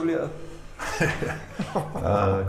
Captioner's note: laughing